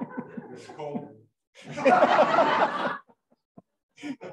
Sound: laughter

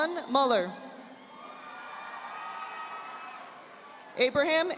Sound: audience applauding

